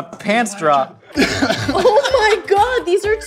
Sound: laughing

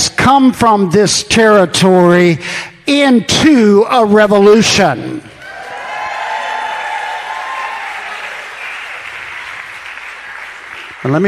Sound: congregation cheers

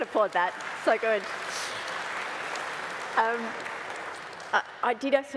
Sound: applause

